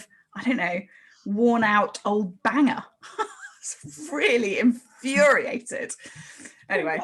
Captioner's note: both laugh